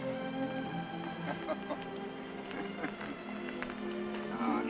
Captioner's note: Jim laughs